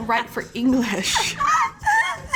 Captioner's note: laughs